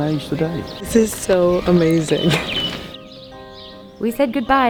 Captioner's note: laughs